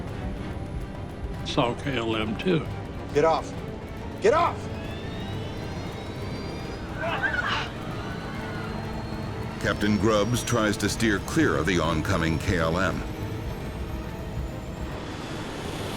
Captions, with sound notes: - Saw KLM 2... (dramatic music) - Get off, get off! (engine accelerating) (passengers gasping) - [Voiceover] Captain Grubbs tries to steer clear of the oncoming KLM. (jet whooshing)